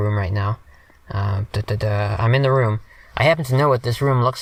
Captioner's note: imitates footsteps